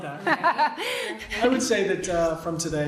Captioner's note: laughing